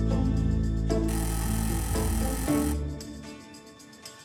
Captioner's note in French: sonnerie de porte